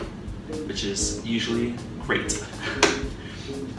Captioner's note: giggle